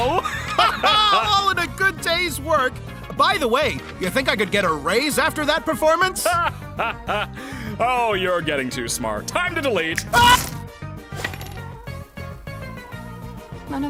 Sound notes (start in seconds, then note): 0.0 both laugh; 6.0 laughs